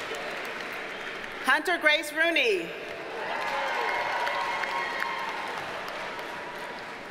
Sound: audience cheers and applauds

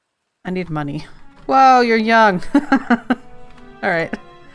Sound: laughs

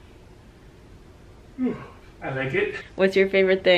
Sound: yawns

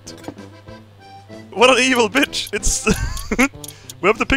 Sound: laughs

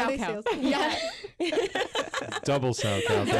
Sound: group laughs

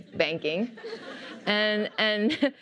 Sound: laughter

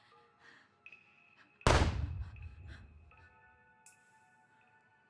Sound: gun firing

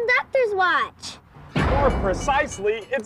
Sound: loud short bang

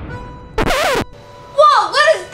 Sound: record scratching

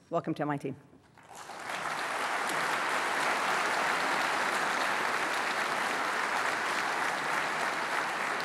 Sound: applause

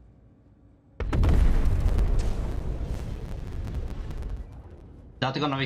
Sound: ship ramming and blows up

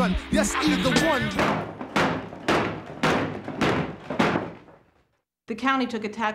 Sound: chair legs banging on the floor

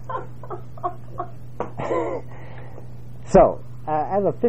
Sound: laugh

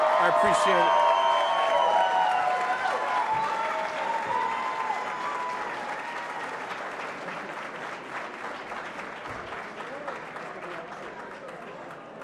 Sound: applause

